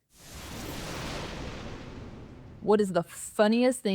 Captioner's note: thunder rumbling